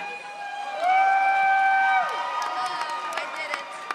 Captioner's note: audience cheers